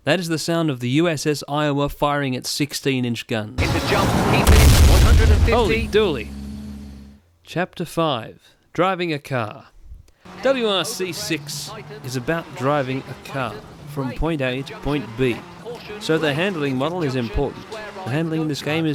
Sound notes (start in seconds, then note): 3.6 kaboom!!!!!!